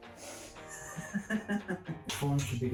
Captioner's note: laughs evilly